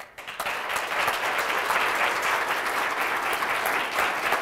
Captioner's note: applause